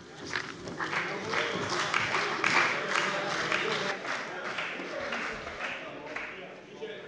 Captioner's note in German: Beifall bei der CDU und dem BÜNDNIS 90/DIE GRÜNEN